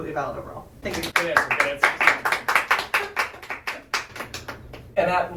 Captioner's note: applause